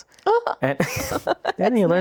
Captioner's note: laughing